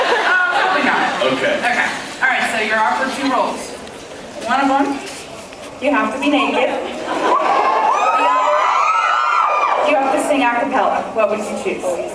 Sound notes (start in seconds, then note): 7.1 cheers